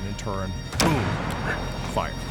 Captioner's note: explosion